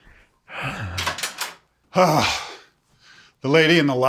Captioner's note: sighs